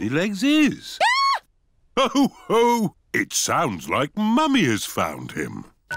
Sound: mummy pig screams

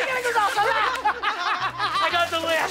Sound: laughter

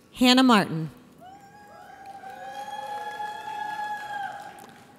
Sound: audience cheers

